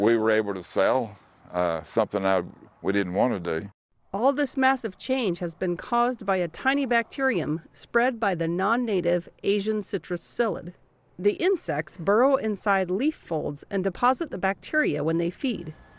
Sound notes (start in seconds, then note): 4.8 voice-over